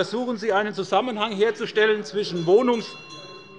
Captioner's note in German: Unruhe bei der FDP - Glockenzeichen des Präsidenten